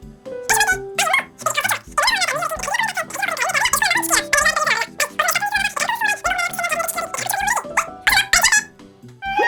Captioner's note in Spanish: Conversación telefónica a cámara rápida